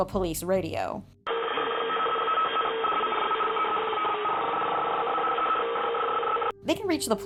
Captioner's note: mangle's police audio file plays